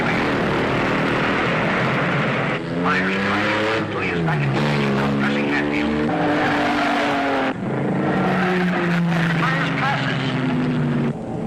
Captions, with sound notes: Myers, driving clean is back in the race and now pressing Hatfield. (engines roaring) (tires squealing) Myers passes!